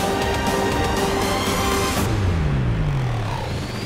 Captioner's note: whoosh